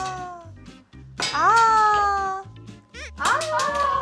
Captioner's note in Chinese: 叹息